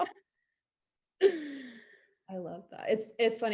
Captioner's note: laughs